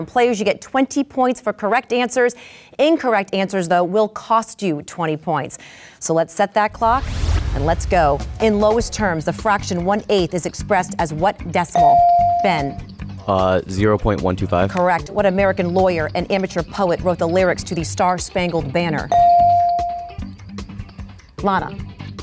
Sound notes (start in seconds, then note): 12.0 dinging; 19.1 dinging